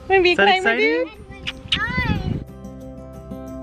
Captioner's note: smooching; soft music